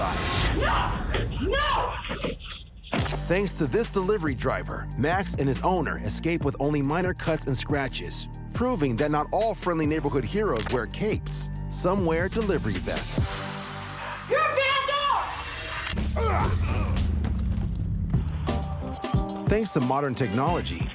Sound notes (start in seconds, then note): 16.0 fighting grunts; 18.6 pleasant music